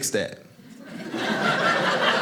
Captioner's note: audience laughing